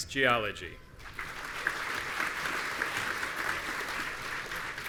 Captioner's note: audience applauding